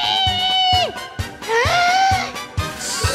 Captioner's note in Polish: bierze wdech